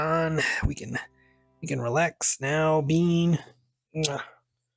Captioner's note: kisses